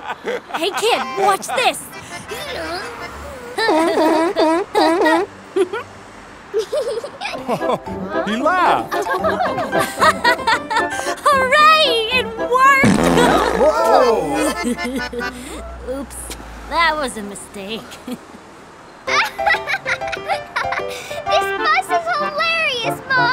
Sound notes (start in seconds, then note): 2.1 grunting; 3.1 toots a song, humming along; 6.6 giggles; 8.5 giggling; 8.8 chuckles; 9.7 laughing; 12.8 passes gas; 12.9 nervous laugh; 19.1 laughing